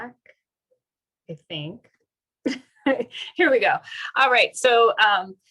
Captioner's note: laughter